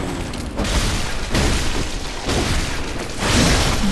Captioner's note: blood splatters